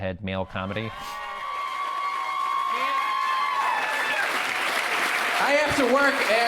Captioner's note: cheers fade back in